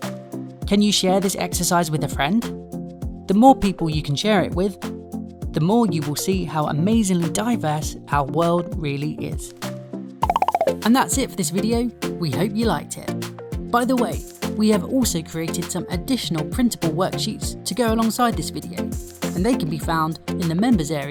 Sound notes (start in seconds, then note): 10.2 balloons popping